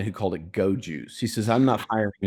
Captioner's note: laughs